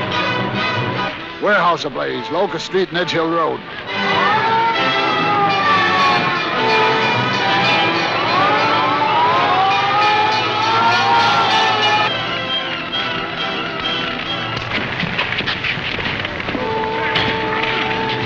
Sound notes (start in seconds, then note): 4.4 sirens; 6.2 ringing bells; 14.1 scuffling